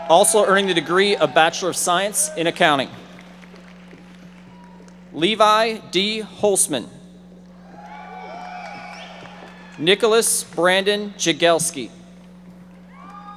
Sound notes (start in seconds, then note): 7.6 audience members applauding